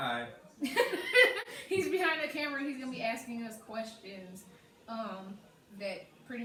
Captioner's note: laughs